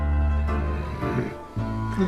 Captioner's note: grunt